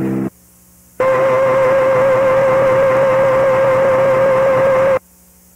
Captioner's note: distorted humming; distorted whining